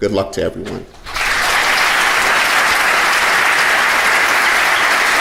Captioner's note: audience applauding loudly